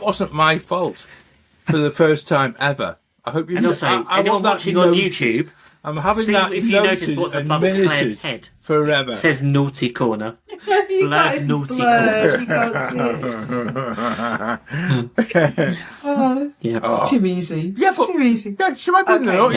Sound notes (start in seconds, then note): 12.0 laughter